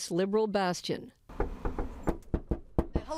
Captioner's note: knocking